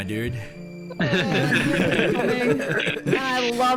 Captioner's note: all laughter